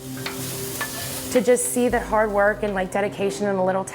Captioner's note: food frying